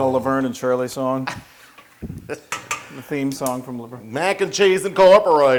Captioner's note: laugh